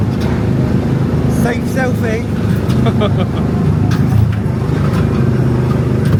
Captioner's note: laughs